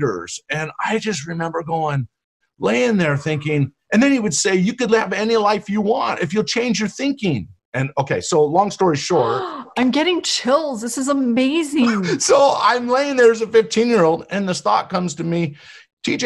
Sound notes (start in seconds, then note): 9.1 gasps; 11.8 laughs